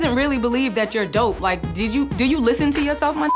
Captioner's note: beep